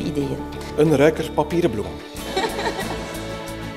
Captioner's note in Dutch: gelach